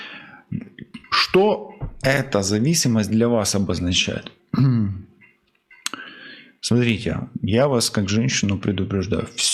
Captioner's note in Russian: откашливается